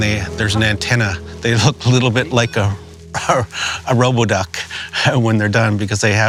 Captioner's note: laughs